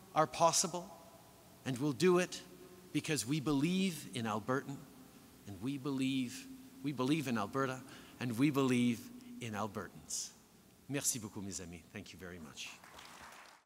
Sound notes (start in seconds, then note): 12.7 applause